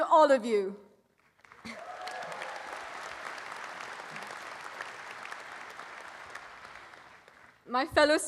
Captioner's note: applause